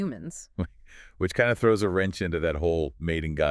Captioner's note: chuckle